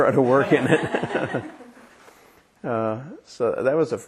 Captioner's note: laughter